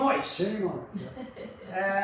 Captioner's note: laughs